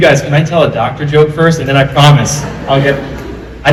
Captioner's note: laughter